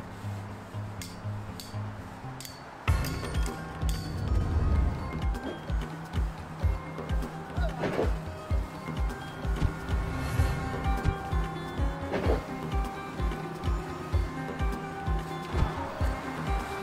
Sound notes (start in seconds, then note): 1.0 hanger hits stick